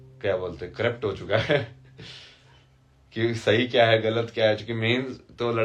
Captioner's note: हंसी